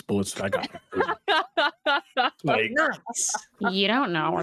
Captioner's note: laughing